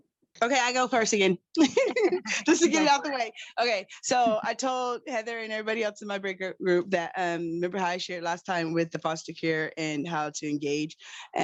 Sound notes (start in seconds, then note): 1.6 laughs